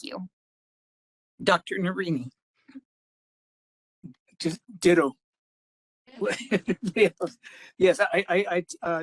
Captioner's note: laughing